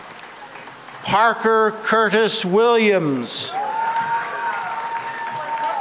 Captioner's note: cheering and applause